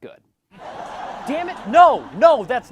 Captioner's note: laugh track